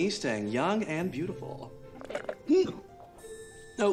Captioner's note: slurps, gags